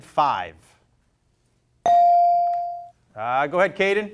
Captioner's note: bell rings